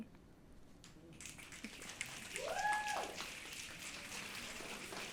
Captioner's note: audience snapping